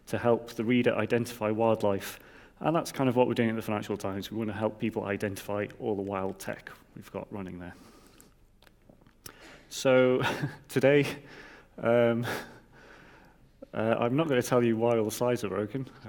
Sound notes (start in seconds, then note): 11.4 laughs